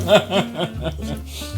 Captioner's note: laughter